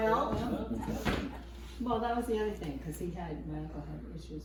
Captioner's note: laughs